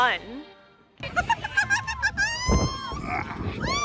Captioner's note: laughter